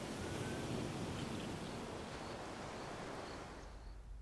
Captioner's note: waves crashing